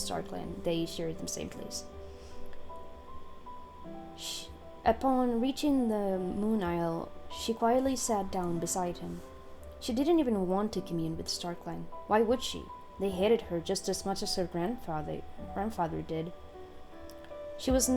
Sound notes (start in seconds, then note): 3.8 snake hiss??